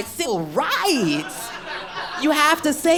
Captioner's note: audience laughs